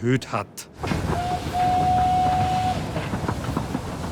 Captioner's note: whistle blows